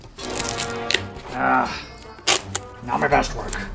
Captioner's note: tape sticking and unsticking